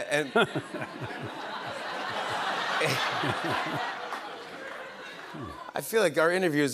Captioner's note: laughter